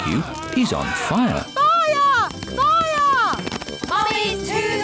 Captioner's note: alarm blares